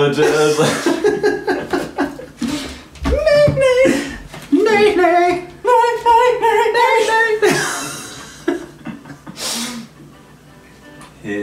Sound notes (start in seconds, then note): 0.1 laughing; 3.3 high-pitched trilling; 6.7 laughing